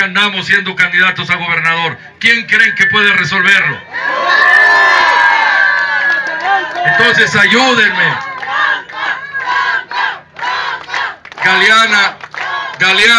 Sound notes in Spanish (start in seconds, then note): 4.9 aplausos